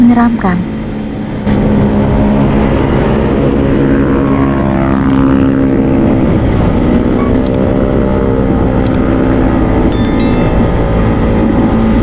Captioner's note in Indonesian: suara sepeda motor